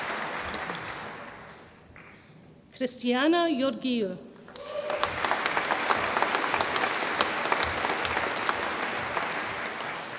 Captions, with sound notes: Christiana Georgiou, (audience applauds and cheers)